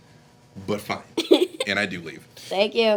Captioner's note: giggling